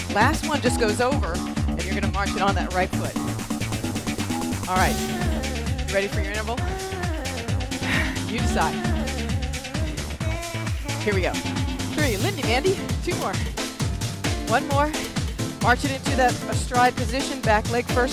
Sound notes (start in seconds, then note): 6.6 sighs